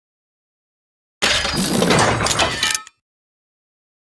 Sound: sound of metal robot

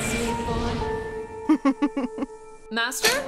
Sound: chuckling

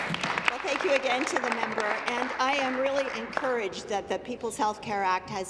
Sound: applause

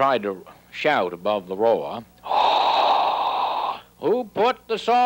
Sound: exhaling

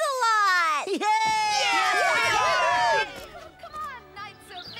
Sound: machines Cheering

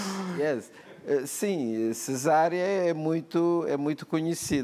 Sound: laughs; speaking portuguese

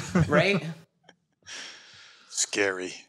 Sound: laughter

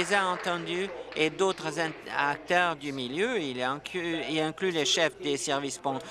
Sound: applause

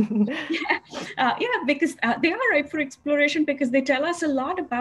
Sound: laugh

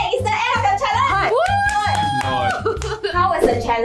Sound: cheering

